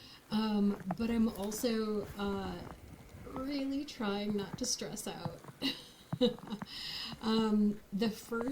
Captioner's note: laughs